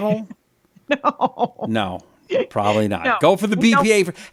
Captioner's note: laughs